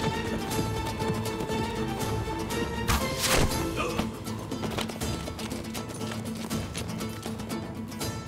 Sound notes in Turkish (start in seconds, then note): 2.9 Ok fırlatma sesi